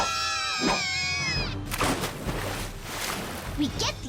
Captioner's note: splash